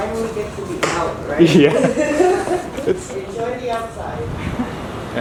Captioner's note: laughs